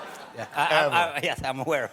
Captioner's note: laughter